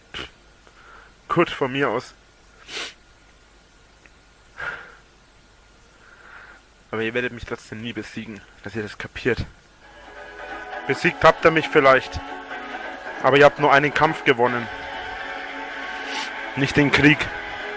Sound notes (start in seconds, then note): 2.6 more sniffling; 4.6 sighs